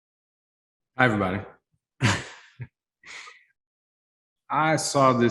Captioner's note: chuckles